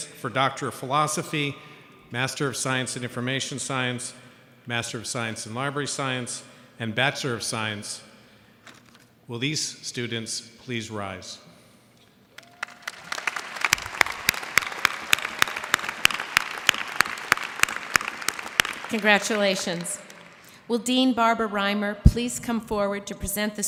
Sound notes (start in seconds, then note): 12.3 applause